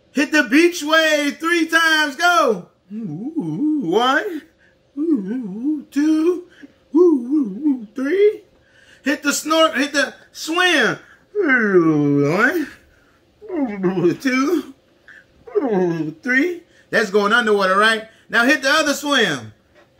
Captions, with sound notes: Hit the beach wave three times, go! Woo, one. Woo, two. Woo, three. Hit the swim. Woo, one. (blubbers) Two. (blubbers) Three. That's going underwater, right? Now hit the other other swim.